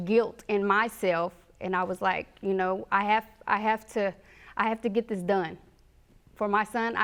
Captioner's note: stammering